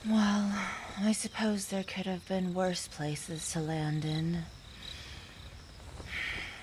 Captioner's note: sigh